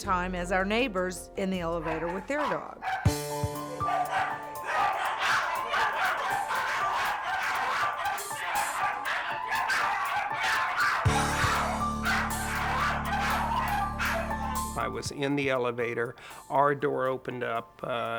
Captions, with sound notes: at the same time as our neighbors, in the elevator with their dog. (aggressive barking) (dramatic music) - I was in the elevator, our door opened up,